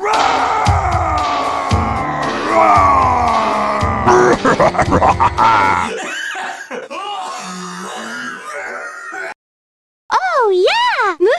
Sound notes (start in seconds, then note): 3.9 Bowser laughing evilly; 6.1 coughing and hacking